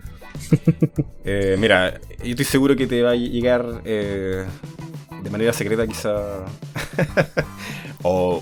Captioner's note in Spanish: risas